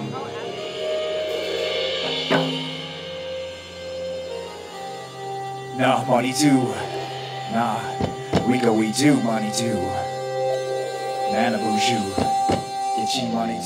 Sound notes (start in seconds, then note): 0.3 slow rock music; 5.8 speaking in Native language